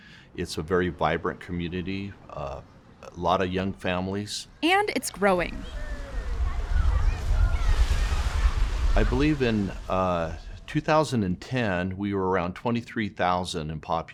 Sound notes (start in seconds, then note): 5.9 splashing